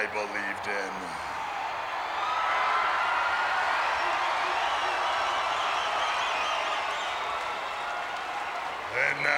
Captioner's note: applause